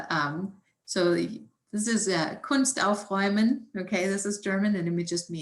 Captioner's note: speaks German